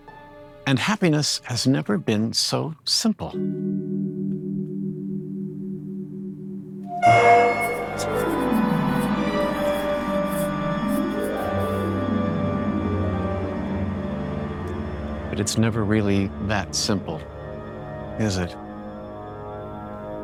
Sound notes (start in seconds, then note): 3.5 ominous Chime; 6.9 music Sting; 7.0 industrial Screeching